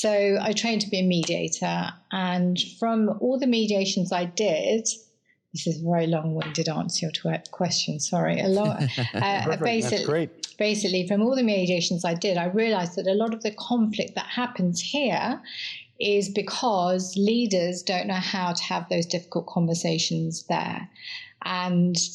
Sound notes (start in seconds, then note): 8.4 laugh